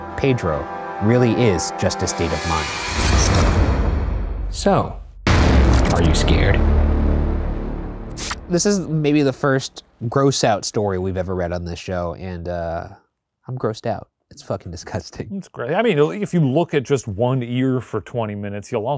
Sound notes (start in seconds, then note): 3.0 dramatic whooshing; 7.8 electrical buzzing